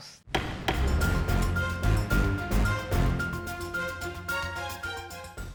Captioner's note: dramatic music; gavel banging